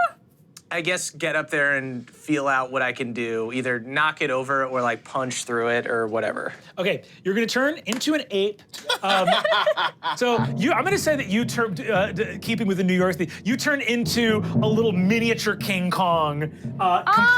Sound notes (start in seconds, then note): 8.8 everyone laughs; 11.8 drums beating